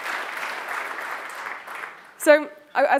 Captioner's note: applause